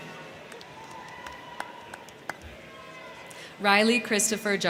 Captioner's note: crowd clapping; crowd cheering